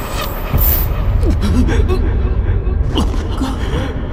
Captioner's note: moans as he endures the pain